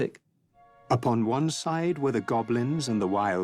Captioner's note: narrator reading on-screen text